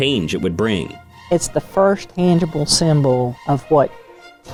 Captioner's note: pat